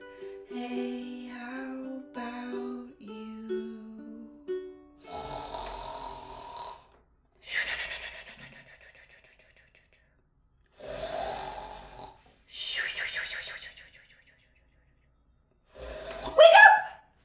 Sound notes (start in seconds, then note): 5.0 big snore!!!!!; 10.8 another big snore!; 15.7 snore